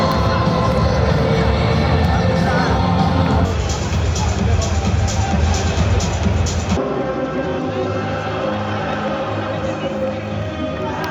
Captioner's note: upbeat Music; people Cheering